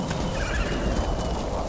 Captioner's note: thunder rumbling